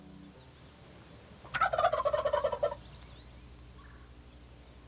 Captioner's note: turkey gobbling